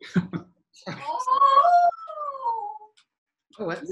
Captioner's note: howling sound